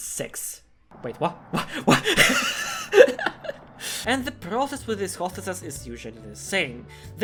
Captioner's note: laughter